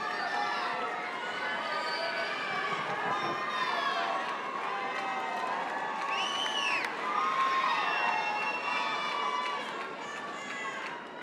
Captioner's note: cheering